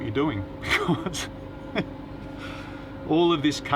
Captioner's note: laughs